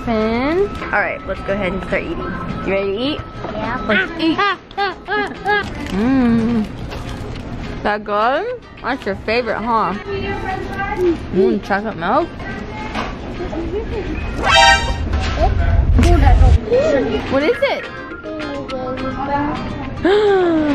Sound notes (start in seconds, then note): 13.6 gasping; 14.4 zinging